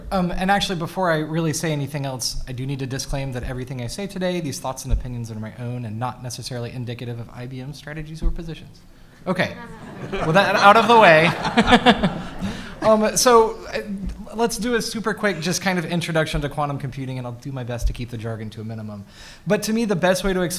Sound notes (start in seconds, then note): 9.6 all laughs